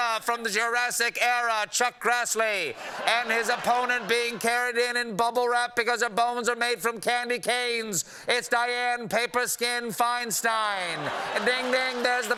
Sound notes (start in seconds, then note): 6.8 as ring announcer